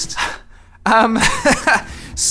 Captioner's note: chuckle